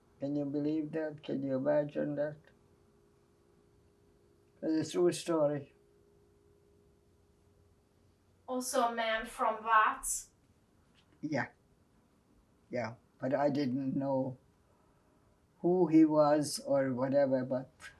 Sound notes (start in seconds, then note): 11.4 wiping nose